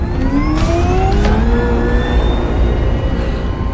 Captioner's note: sub whirring